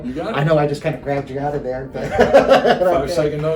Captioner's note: laughing